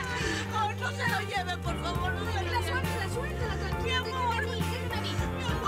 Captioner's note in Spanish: sollozos